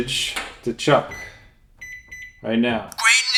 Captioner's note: BEEP of Manny pressing microwave buttons